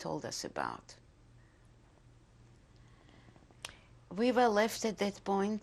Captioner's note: pauses for 3 seconds